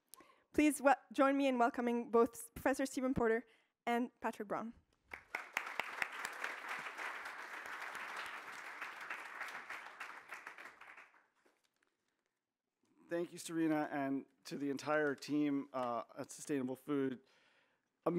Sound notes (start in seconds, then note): 5.0 applause